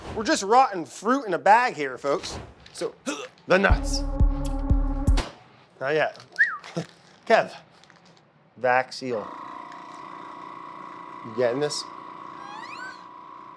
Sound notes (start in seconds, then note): 6.3 whistles; 9.2 motor sounds